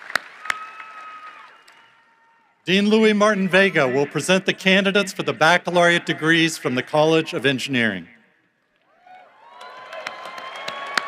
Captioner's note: applause